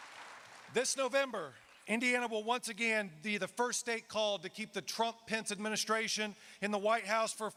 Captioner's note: applause